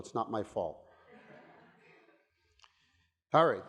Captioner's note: audience laughing